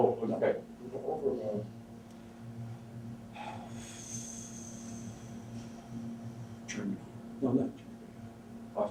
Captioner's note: breaths out